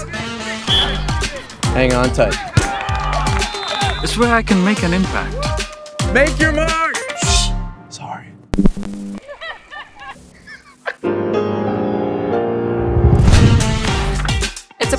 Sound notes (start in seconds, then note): 0.3 upbeat music; 0.6 whistle blows; 3.2 whistle blows; 5.1 man yelling; 9.2 women laughing; 9.3 man crying; 11.1 intense piano music; 13.2 upbeat music